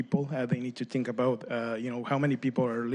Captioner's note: speaking spanish